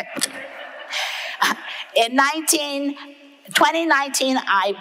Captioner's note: audience laughing